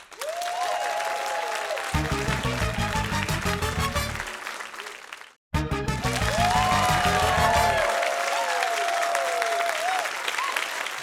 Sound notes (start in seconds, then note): 0.0 cheering, applause; 1.8 upbeat fanfare; 5.9 cheering, applause; 7.5 upbeat fanfare